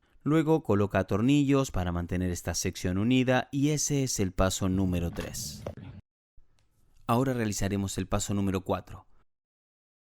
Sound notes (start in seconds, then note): none